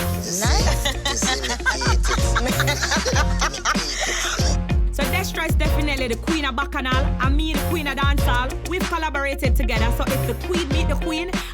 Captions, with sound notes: >>: Thank you. >>: Nice. (laughing) >>: So Destra is definitely the Queen of Bacchanal and me the Queen of Dancehall we've collaborated together, so if the queen meet the queen